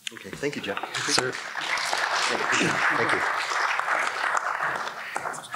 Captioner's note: congregation clapping